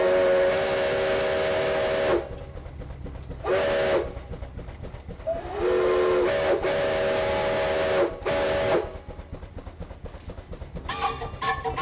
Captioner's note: whistle blows